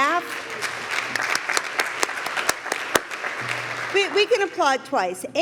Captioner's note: applause